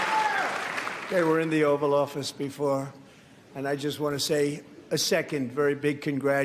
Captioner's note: applause